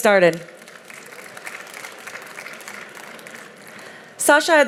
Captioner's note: audience clapping